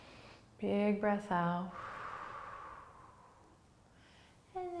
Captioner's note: exhales